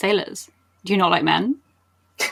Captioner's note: laughs